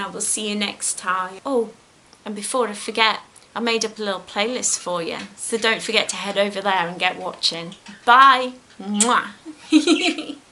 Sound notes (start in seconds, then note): 9.4 giggles